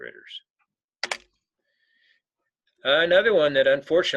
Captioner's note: keyboard clicking